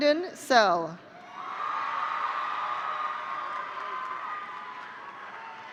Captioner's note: audience cheering